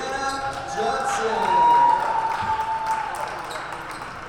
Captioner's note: crowd cheers